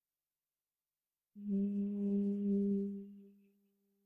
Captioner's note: humming sound